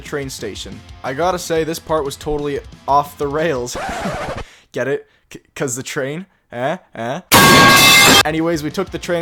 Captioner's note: laugh track